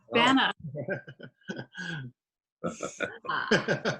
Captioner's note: chuckles